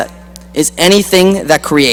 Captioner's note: none